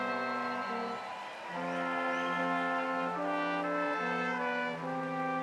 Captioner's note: ceremonious music continues; audience cheering